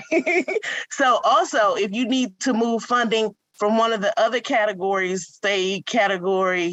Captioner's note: laughs